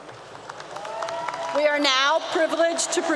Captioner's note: applause 👏 👏